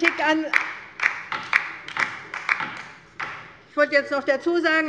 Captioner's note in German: Beifall bei der LINKEN